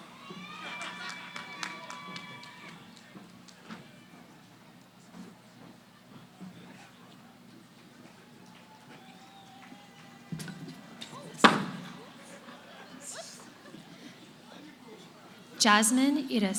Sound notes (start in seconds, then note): 0.0 cheering; 4.3 background conversations